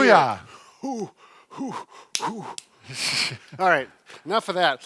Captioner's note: exhaling